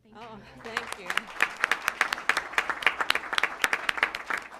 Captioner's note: applause